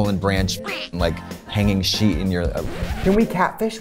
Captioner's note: record scratch